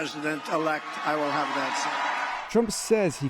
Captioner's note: cheering